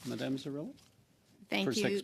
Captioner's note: speaking French